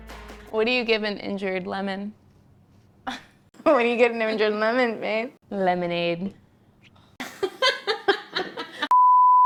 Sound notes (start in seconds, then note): 2.8 chuckling; 7.2 both laughing; 8.6 screen beeping